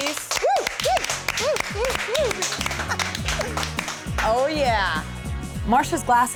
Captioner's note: clapping